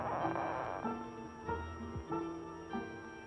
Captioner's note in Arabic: صرير